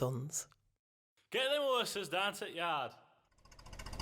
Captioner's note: voice shouts - get them osses down t'yard